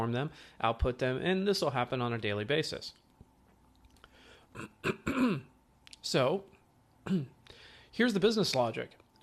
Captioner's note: cough